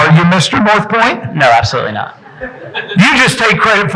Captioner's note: audience chuckling